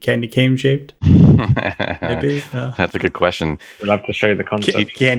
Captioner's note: laughs